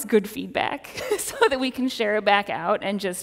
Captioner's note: laughs